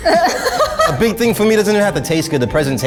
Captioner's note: laughs